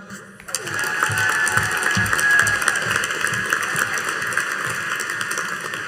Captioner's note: audience cheering and applauding